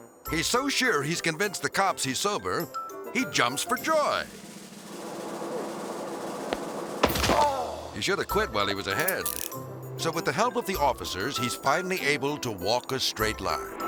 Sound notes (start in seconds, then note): 4.1 drum roll rumbling; 6.4 impact crunches; 7.1 driver groans